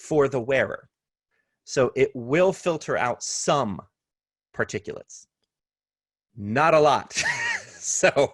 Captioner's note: laughter